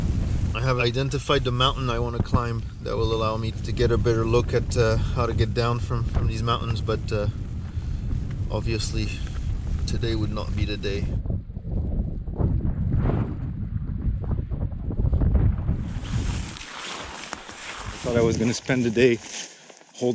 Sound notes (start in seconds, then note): 11.0 thundering